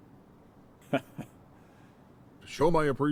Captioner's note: Kyle laughing